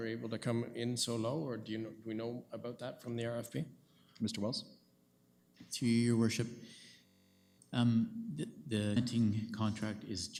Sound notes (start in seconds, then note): none